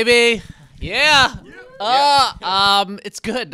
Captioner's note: cast whooping